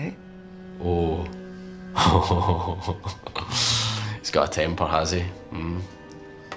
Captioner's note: laughing